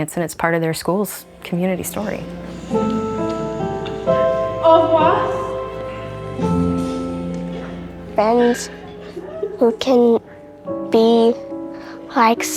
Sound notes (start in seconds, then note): 2.4 sad piano music; 4.4 speaking French